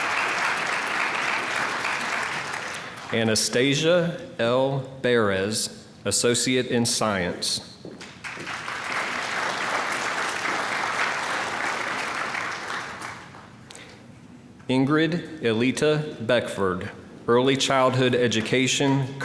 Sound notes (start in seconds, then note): 8.1 applause